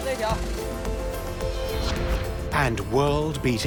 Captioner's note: speaking Tibetan